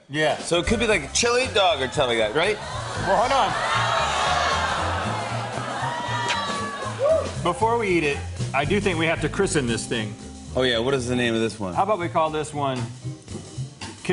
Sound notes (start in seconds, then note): 2.4 audience groans